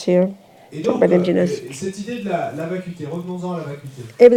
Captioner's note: French